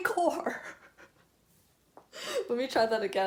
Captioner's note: laughing